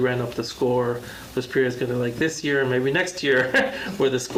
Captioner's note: laughs